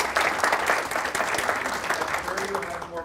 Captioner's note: applause